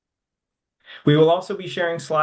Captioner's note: speaking French